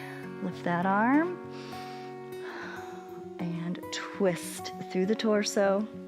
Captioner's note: inhales